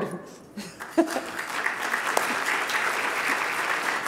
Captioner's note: audience applauding